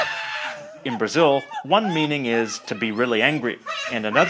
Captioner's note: cackles; mom continues to cackle